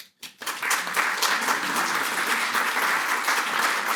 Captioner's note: audience clapping